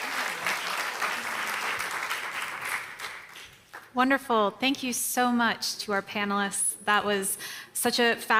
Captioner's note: applause